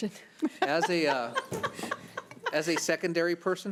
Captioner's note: chuckles; laughing